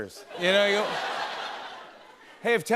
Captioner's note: laughter